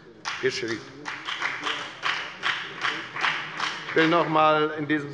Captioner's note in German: Beifall bei der FDP